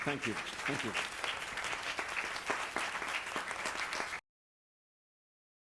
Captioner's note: audience clapping